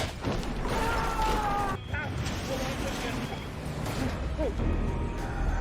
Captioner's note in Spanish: bombero gritando; música espeluznante